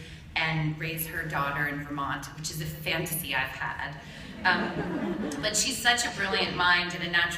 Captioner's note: laughter